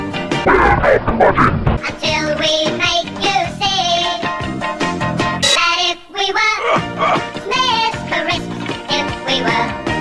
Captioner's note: horror sounds